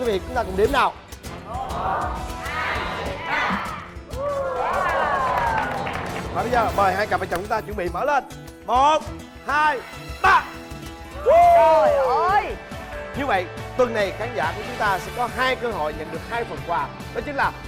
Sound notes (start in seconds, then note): 4.0 applause and Cheering